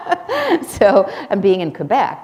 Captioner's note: laughter